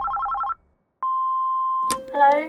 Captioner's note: phone ringing; phone beeping